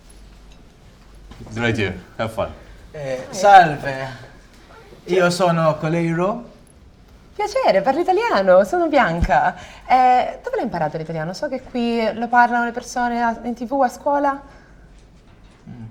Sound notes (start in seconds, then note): 3.6 in italian; 9.5 speaks in Italian